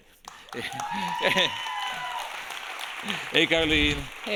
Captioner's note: audience cheering